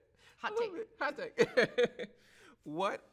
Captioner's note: laughs